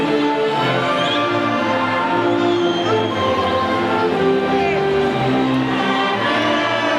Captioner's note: audience whistling and faintly shouting